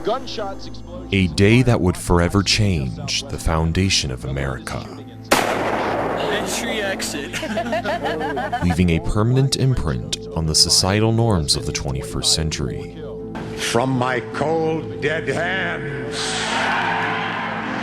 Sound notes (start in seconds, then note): 5.3 gunshot; 7.0 laughter; 16.3 audience cheering